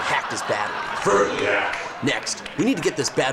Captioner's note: deep Voice